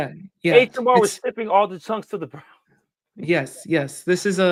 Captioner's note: chuckling